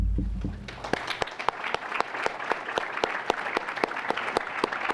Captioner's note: applause